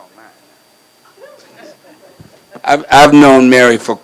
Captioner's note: laughs